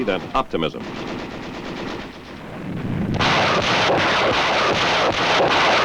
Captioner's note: gunshots booming